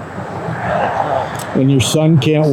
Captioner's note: traffic droning